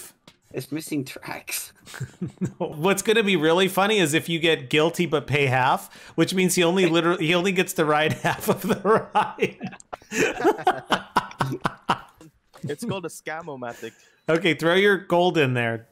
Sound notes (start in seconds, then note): 10.1 laugh laugh laugh laugh laugh laugh laugh